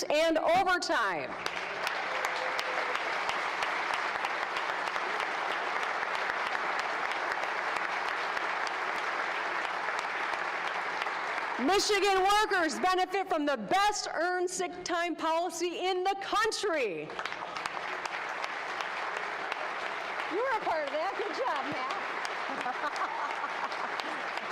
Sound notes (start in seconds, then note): 6.9 applause; 21.3 applause